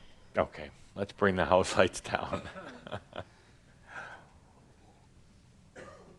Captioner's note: Adamus chuckles